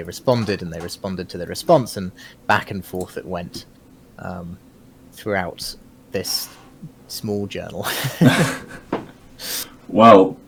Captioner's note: both chuckle